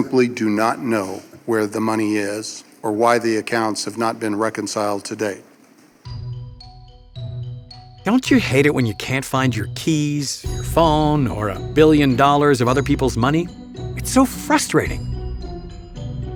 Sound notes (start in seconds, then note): 8.3 voiceover